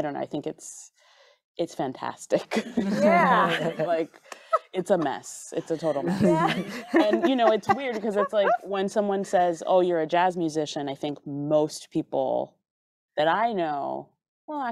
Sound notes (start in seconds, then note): 2.6 group laughing